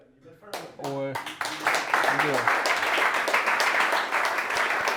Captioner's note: audience clapping